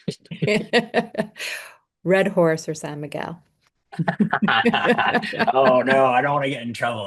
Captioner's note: laughter